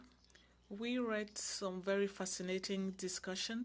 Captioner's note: speaking French